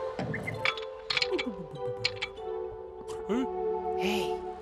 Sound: מנעול מרשרש

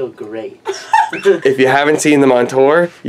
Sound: laughing

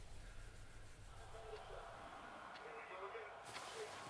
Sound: TV playing

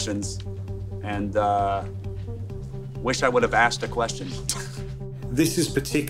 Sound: chuckling

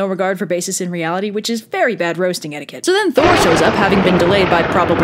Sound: boom

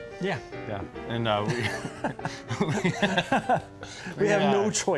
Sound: both laugh

